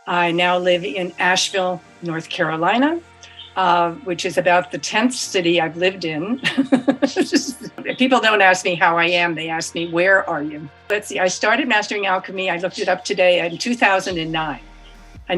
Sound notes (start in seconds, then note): 6.2 laughs